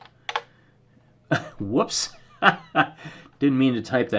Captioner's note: laughter